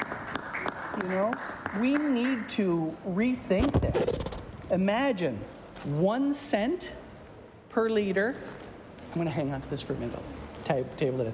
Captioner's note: applause